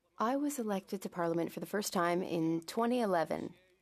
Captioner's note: speaking French